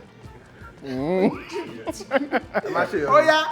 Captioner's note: laughs